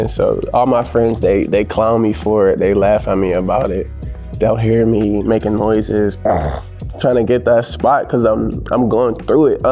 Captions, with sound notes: So all my friends, they clown me for it. They laugh at me about it. They'll hear me making noises, [sighing] trying to get that spot 'cause I'm going through it.